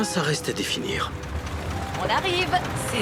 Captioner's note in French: bruit de moteur; bavardage indistinct